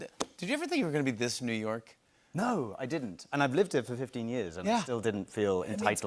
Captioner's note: none